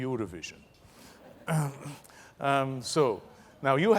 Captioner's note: laugh